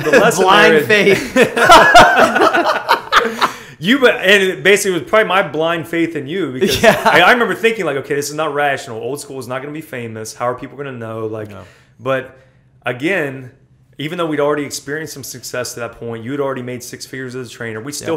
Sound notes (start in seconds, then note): 1.1 laughter; 6.9 laughs